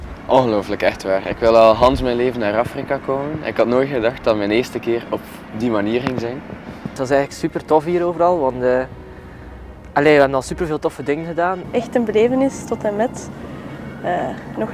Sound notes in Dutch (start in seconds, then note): 6.3 gust